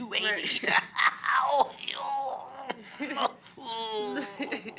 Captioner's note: groaning